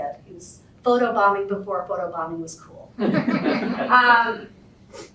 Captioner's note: laughter